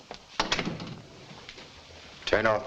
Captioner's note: door thuds shut